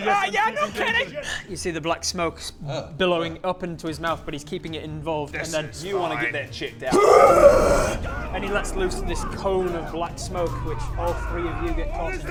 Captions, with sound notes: - I'm sensing danger - Yeah, no kidding! You see the black smoke billowing up into his mouth but he's keeping it involved and then This is fine... You wanna get that checked out Huerghhhhhhhhhhhhh!!!! - Ah! God! *coughing and retching* - And he lets loose this cone of black smoke which all three of you get caught in